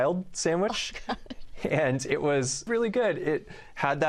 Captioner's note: laughter